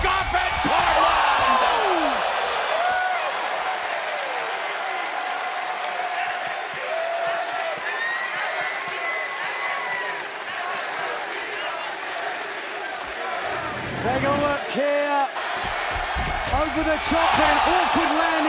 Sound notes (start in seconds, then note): 1.8 crowd cheering